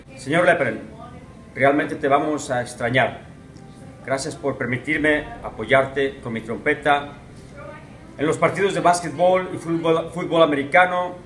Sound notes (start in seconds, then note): 1.2 Espanol